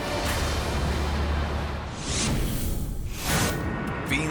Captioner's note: logo squishes